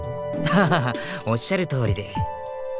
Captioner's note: laugh